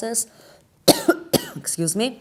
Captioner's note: coughing